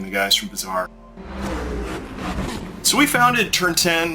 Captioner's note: car roaring